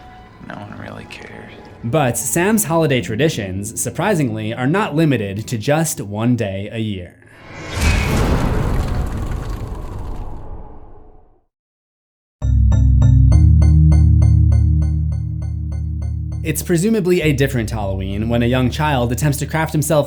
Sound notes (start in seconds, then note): 7.4 impact